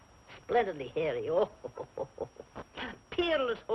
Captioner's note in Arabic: ضحكة مكتومة